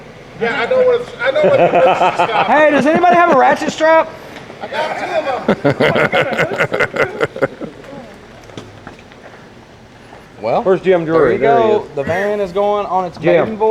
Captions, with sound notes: Hey, does anybody have a ratchet strap? I got two of them. (laughing) Well, where's Jim Drury? There he goes. The van is going on its gym.